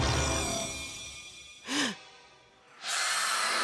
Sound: gasping

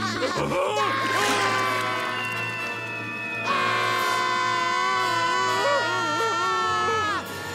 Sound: laughing; screaming

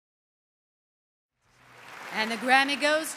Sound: applause

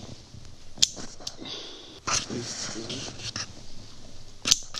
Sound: gun clicking

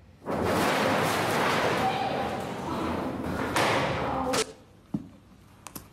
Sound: paper rustling; woman shrieking; tomato squishing

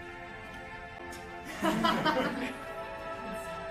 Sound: laughter

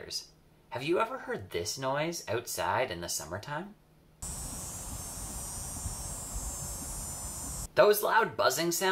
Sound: loud Buzzing Noise

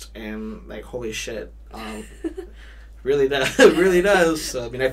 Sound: laughs

